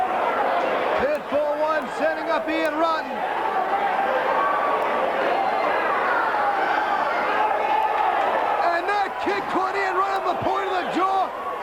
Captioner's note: crowd chatter